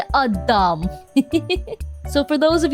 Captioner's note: giggle